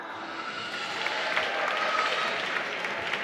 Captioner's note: applause